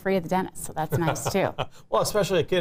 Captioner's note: laughs